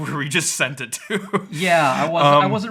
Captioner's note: laughing